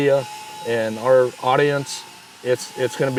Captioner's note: tool grinding